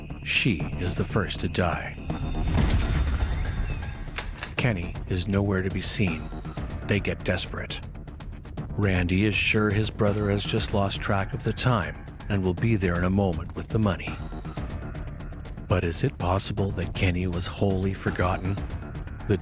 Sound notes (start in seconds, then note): 2.8 gun fires